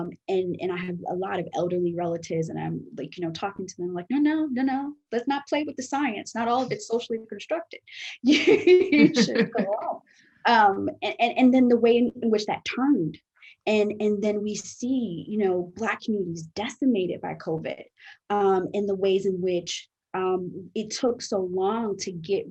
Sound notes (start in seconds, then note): 8.8 laughs